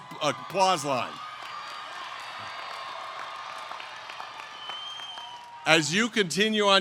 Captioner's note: applause